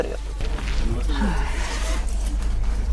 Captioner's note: sigh